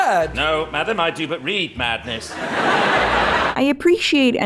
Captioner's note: more audience laughter